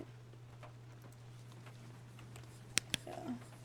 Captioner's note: whispers